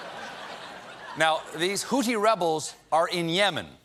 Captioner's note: laughter